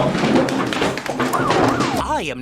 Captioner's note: sirens